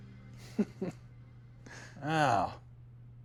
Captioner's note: chuckles